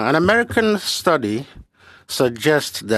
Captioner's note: speaking French